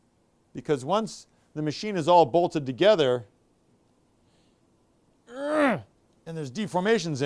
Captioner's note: grunts